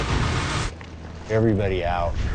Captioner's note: wood softly cracking